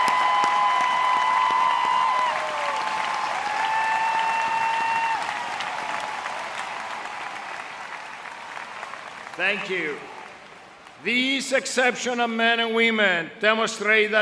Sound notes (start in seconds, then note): 9.0 applause